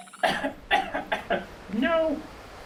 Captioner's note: Leo coughing